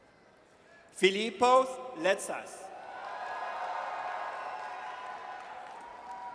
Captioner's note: audience cheers